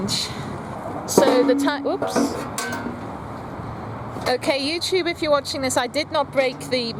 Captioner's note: clunk of metal